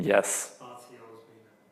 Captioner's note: man speaking off mic